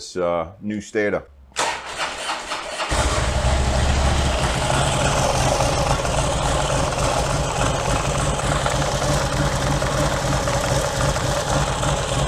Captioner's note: engine starts and runs